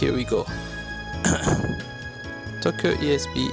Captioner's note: clears throat